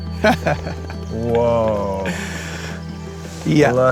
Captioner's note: laughs